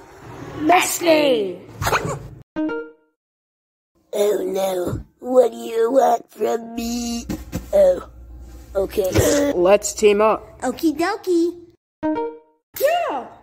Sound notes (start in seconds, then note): 7.2 pat pat